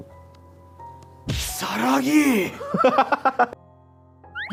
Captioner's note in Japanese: 笑い声